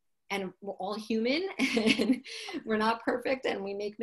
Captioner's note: laughs